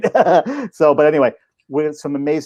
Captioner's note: laughing